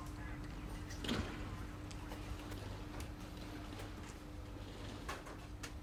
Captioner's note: distant radio chattering